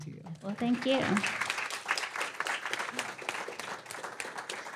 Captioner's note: applause